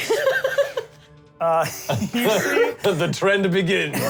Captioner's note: laughter